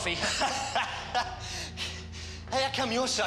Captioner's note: laughs